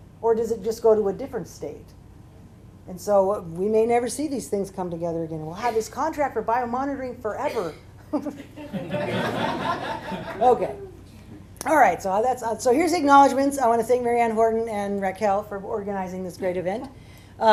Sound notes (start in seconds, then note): 8.1 laughter